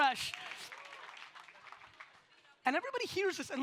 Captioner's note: audience applauds